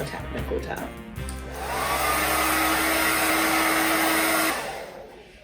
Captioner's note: blowing noises